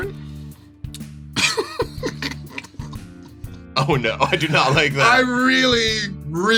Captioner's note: laughs